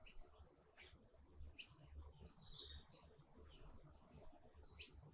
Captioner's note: birds chirping